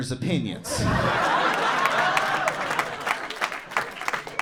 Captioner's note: audience laughing